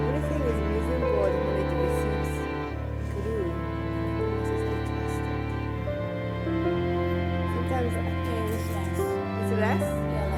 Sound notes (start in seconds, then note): 4.1 speaking faintly